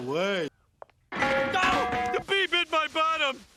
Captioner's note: metal clanking